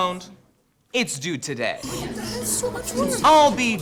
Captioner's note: students grumble